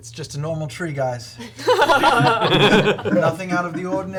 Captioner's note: all laugh